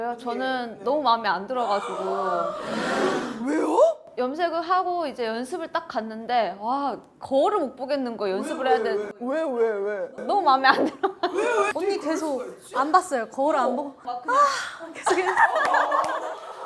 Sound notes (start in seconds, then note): 14.3 sigh